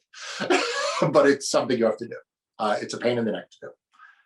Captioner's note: laughs